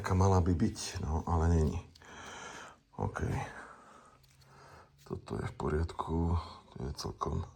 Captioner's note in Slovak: smrkanie